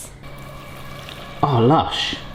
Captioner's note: egg bubbling